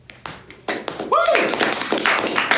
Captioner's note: clapping